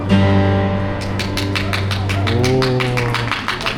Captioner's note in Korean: 박수 짝짝짝짝